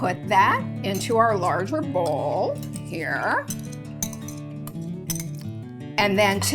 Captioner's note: whisk scraping bowl